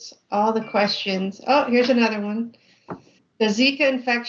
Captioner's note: computer bleeps